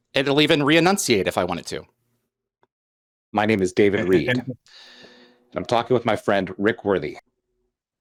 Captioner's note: AI voice